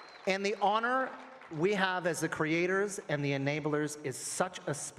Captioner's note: applause